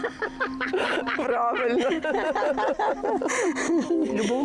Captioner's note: laughs